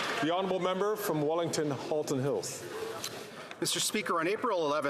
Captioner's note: some Applause